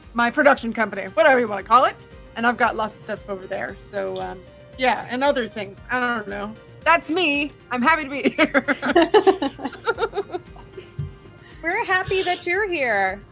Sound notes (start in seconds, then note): 8.2 laughter